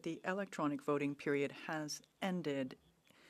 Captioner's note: speaking French